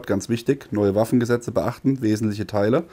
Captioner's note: german